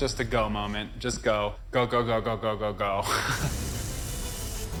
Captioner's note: chuckles